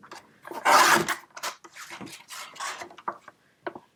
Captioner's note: cutting sound